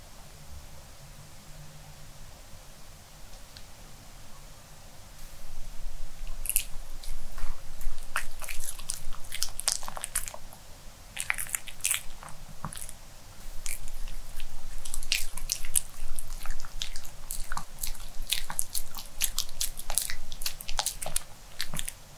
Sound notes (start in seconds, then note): 18.5 chewing; 20.8 gulping!